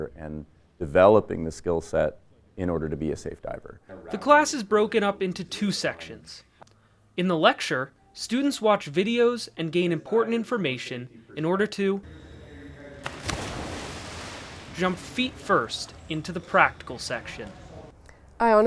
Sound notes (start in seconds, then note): 12.1 water splashes